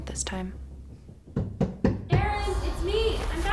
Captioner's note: knocking on front door